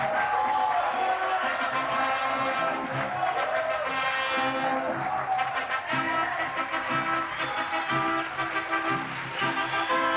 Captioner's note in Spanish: Aplausos y exclamaciones